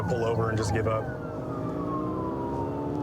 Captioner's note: siren blaring